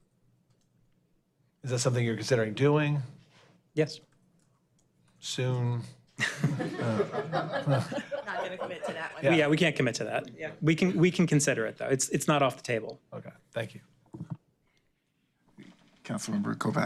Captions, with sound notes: Is that something you're considering doing? Yes. Soon? (laughter) Oh. Not gonna commit to that one. Yeah, we can't commit to that. Yeah. We can, we can consider it, though. It's, it's not off the table. Okay. Thank you. Council Member Kopac.